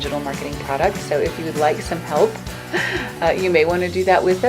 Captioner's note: laughs